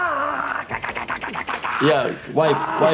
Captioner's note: Steve-O screaming; Steve-O grunting